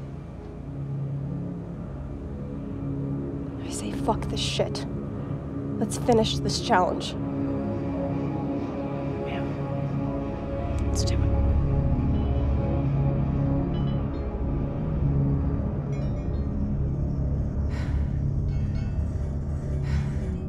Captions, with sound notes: - I say fuck this shit. Let's finish this challenge. - Yeah. Let's do it. (bells chiming) (heavy breathing)